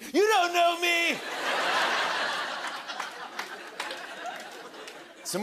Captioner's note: laughter